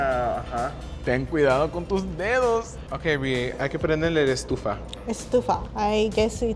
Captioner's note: speaking Spanish